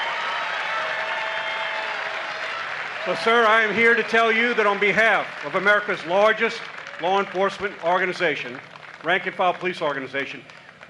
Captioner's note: applause